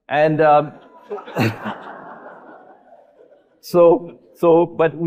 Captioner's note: audience laughing